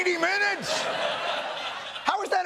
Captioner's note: laughter